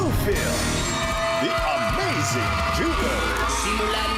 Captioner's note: crowd screaming